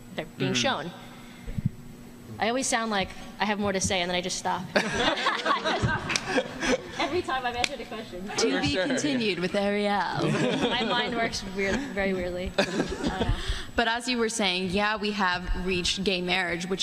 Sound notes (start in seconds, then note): 10.2 laughter